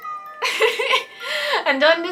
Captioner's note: cat meows; laughs